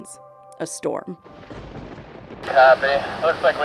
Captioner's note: thunder striking